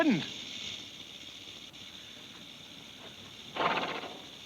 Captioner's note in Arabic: خشخشة الثعبان